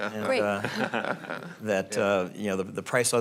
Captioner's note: laughing